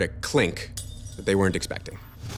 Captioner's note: jar breaking